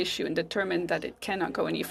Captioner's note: speaking French